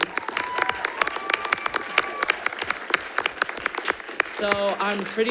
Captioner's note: audience applauds; audience cheers